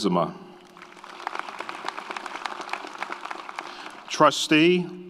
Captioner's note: audience applauds